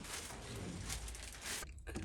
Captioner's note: paper rustling